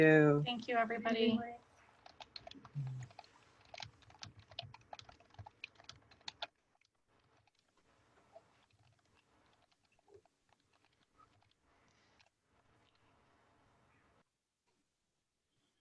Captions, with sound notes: Thank you. Thank you, everybody. (keyboard clicking)